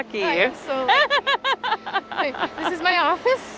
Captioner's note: laughs